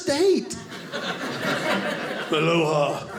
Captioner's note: audience laughing